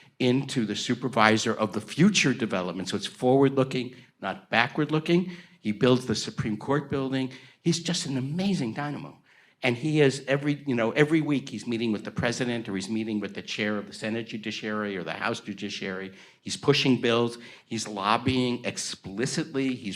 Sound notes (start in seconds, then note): none